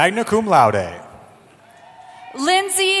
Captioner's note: cheering